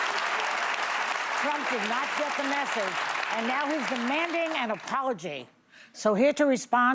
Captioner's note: applause